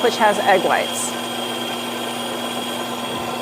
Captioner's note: whisking